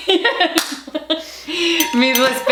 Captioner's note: ding, ding!